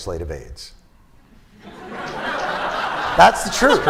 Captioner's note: laughter